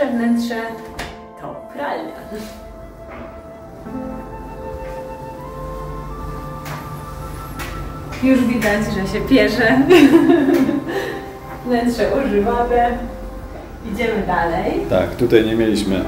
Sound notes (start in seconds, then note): 13.7 laughs